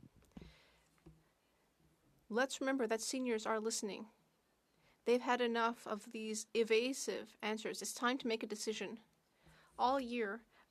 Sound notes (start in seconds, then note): 1.2 speaking French